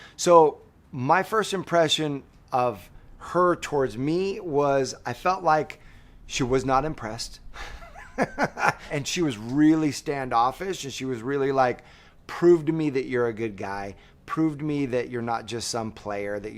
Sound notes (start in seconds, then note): 7.5 laughs